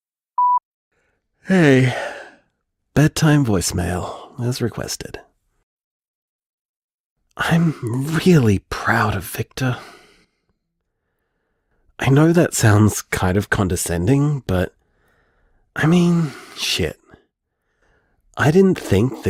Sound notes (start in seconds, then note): 1.5 yawn